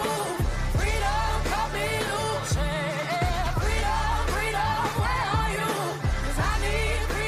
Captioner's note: crowd chanting